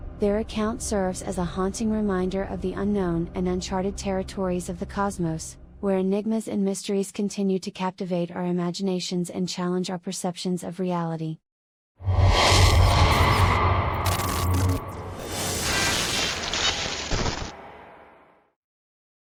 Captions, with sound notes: Their account serves as a haunting reminder of the unknown and uncharted territories of the cosmos, where enigmas and mysteries continue to captivate our imaginations and challenge our perceptions of reality. (ominous tone) (digital static)